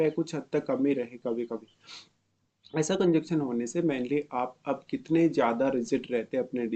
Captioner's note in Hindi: नाक से की जाने वाली आवाज़